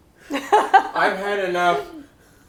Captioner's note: laughing